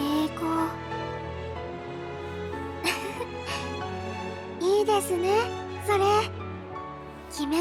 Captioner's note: giggle